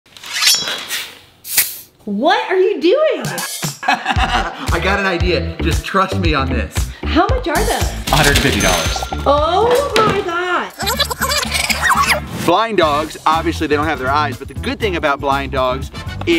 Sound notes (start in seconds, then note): 0.4 knife clangs; 3.8 Rocky laughs